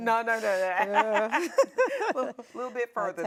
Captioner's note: both women laughing